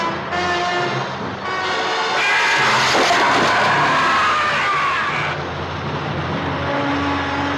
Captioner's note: suspenseful music; creature screaming